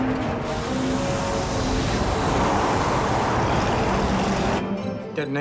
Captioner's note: wind blowing